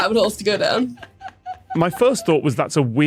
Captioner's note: laughs